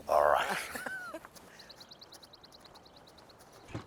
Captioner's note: Rene laughing